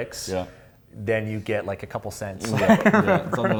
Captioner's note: laughs